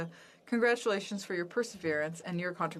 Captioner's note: speaking French